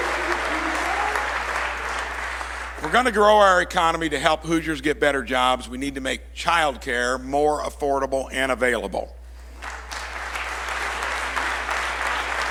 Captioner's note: applause